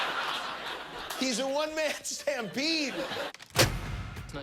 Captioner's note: laughter